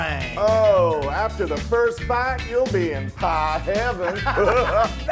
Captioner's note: laugh